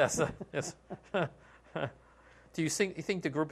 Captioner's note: laughter